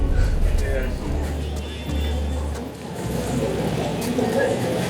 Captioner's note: people chattering